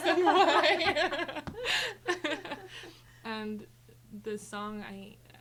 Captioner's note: group laughing